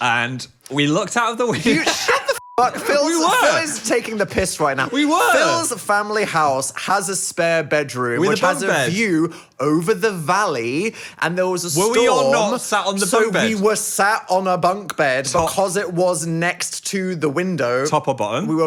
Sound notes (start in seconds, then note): 2.4 beep